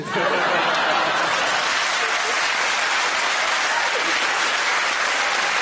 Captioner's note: laughter and applause